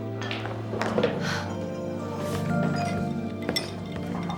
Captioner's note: sighs; slow soft music